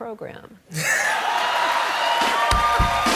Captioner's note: laughter, cheers, applause